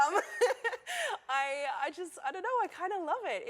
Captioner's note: laughter